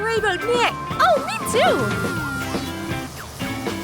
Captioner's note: bus rumbles past and screeches to a halt